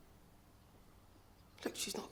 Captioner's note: none